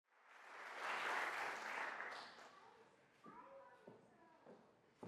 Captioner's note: audience applauding